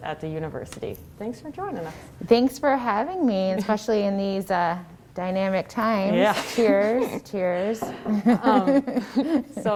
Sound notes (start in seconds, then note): 6.2 giggles; 8.0 laughs